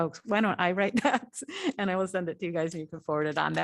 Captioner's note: laughter